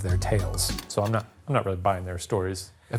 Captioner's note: projector clicking